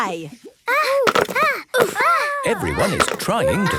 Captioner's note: all grunting